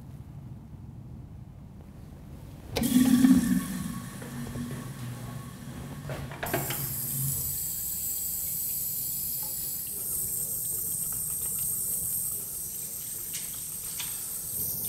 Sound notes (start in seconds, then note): 2.7 flush